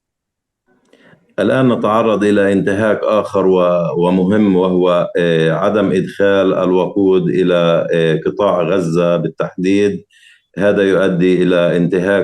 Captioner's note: speaking arabic